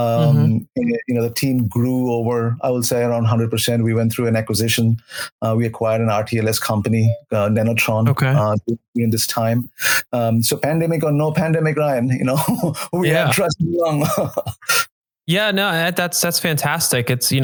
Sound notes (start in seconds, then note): 7.5 phone dings; 13.1 chuckles